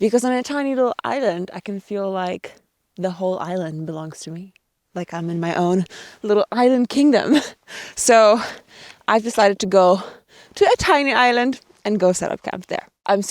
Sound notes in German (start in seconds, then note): 7.6 lacht